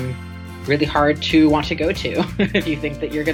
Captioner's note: chuckles